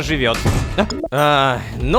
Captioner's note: door slams